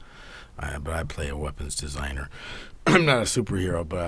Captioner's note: clears throat